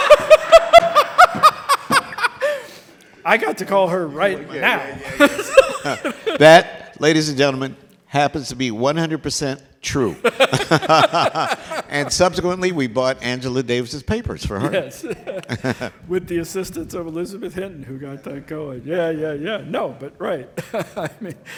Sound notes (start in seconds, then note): 0.0 all laughing; 10.1 all laughing